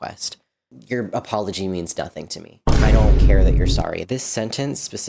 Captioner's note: Vine boom